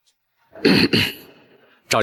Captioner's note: cough, cough